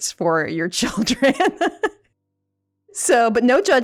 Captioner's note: laughs